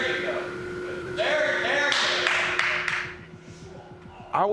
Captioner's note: claps